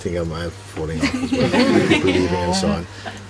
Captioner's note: laughter